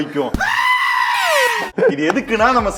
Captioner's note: screams